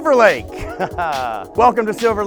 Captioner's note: laughing